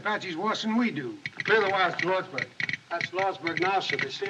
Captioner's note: telegraph Receiver Clicking